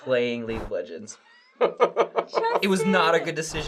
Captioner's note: laughter